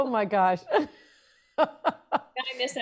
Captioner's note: laughs